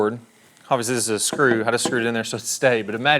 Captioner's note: hammer tapping